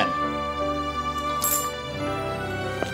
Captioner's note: coins clinking